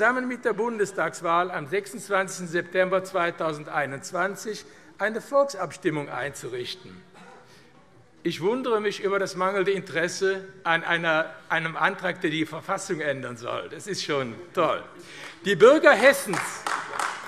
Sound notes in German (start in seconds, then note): 14.5 Beifall AfD